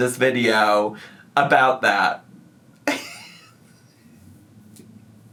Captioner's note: laughs